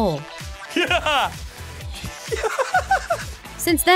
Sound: crazy laugh

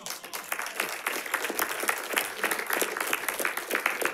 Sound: audience applauding

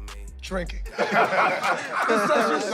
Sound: laughter

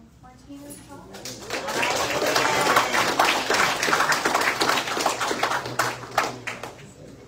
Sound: audience applauds

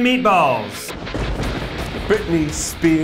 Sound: rock music; thunder cracks

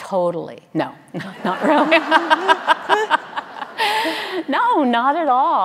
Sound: audience laughing

